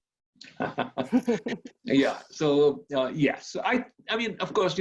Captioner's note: both laugh